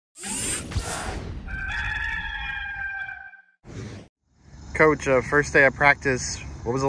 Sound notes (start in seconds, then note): 0.2 logo whooshes; 1.4 rooster crows